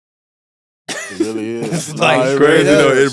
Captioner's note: chuckles